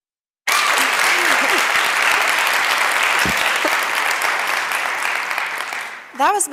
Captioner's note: clapping